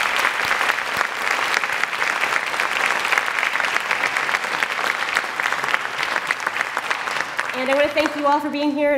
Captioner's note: applause